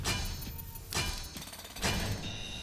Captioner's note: drum; gunshot